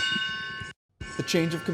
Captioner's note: nats - bell ringing